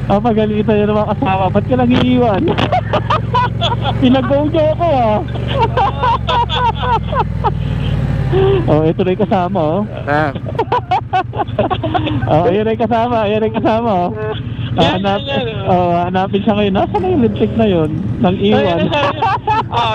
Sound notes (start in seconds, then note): 5.3 group laughing